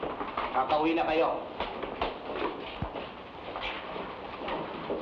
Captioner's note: man speaking in Tagalog